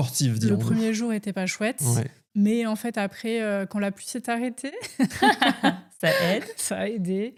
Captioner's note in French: rires